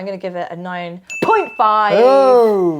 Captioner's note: bell dings